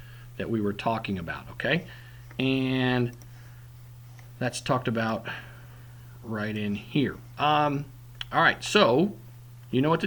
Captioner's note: click